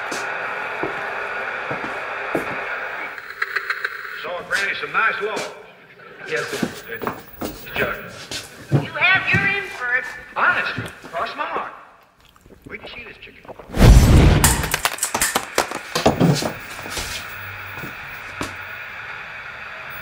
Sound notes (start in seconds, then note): 0.1 white noise continues; 8.6 footsteps thumping; 12.0 man gulping water; 13.7 antenna slams; 16.1 white noise continues